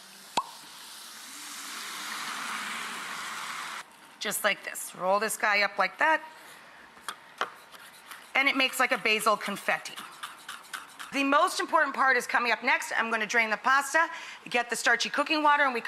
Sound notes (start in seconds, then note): 0.0 food sizzling; 0.3 cork popping; 7.4 knife banging; 10.1 basil crunching